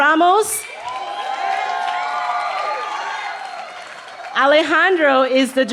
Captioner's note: cheering